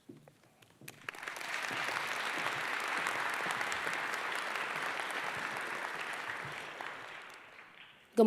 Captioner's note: applause